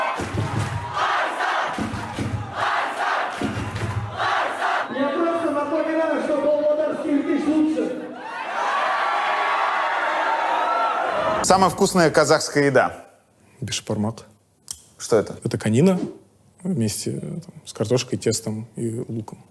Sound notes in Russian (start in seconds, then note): 7.9 толпа ликует